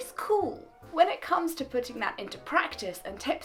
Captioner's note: voice breaking